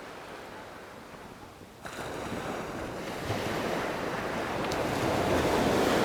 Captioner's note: ocean waves rolling in, crashing gently